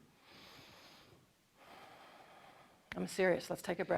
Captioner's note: inhales loudly